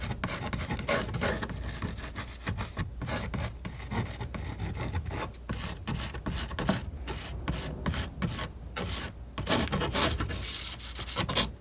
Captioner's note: scratching